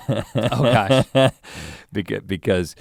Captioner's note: chuckles